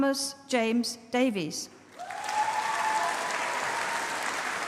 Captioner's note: applause